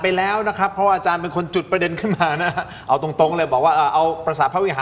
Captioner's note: laughter